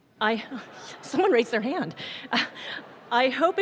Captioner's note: audience laughs